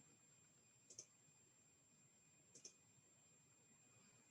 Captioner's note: mouse clicking